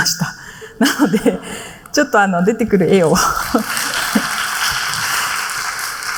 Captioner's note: applause